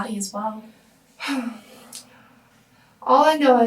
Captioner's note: Hannah sighs